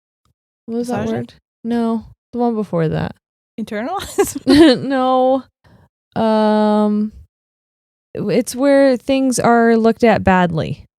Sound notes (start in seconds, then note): 4.3 laughing